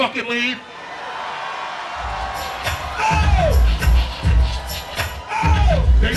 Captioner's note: crowd cheers